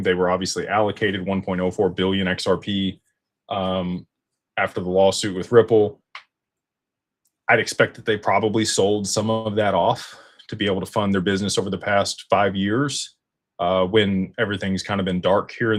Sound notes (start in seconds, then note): none